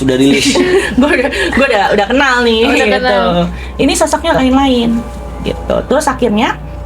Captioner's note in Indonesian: tertawa